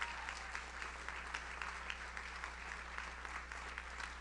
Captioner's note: audience cheers; audience applauds